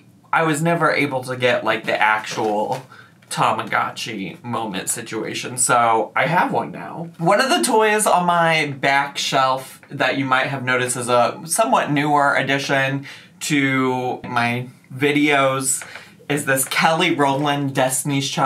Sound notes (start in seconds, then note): none